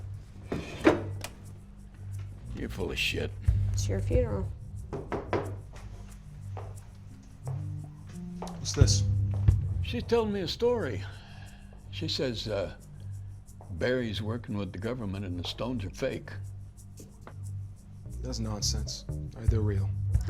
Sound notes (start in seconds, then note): 4.9 loud knocking